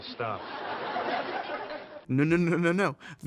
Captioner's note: audience laughing